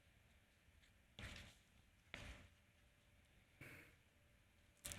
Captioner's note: paper rustling